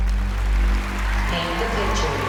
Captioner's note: applause